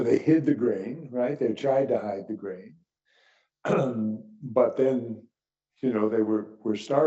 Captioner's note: cough